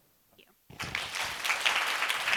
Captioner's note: applause